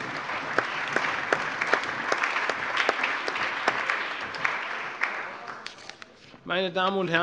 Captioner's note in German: Allgemeiner Beifall